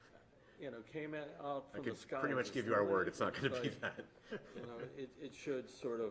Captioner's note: laughter